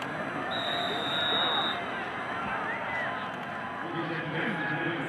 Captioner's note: referee blows whistle